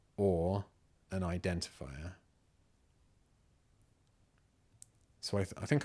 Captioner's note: silence